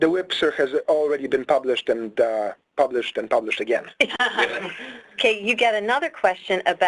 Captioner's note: laughter